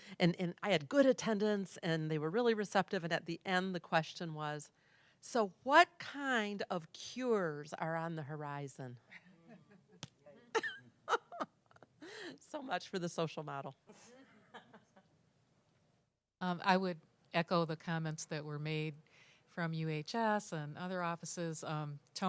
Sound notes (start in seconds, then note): 11.1 laugh; 14.1 laugh